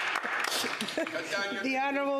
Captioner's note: some Applause